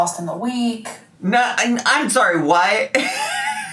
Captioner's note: laughs